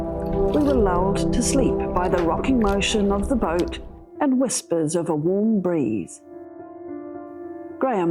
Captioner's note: waves